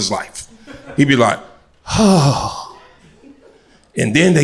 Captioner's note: sighs